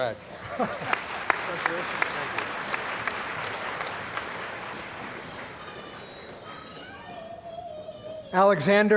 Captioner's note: applause